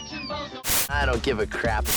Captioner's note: static